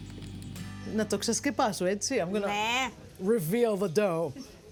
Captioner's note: speaking greek